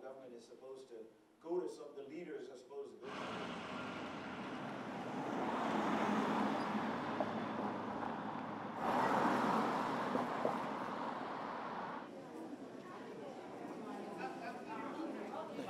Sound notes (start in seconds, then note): 3.0 downtown hampton street noise; 12.0 crowd noise